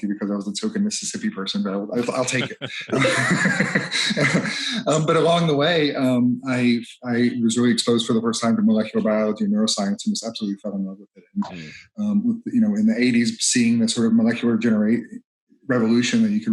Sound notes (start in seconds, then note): 3.0 laughs